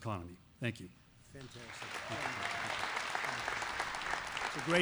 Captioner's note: applause